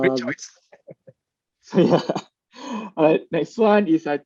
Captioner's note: chuckles softly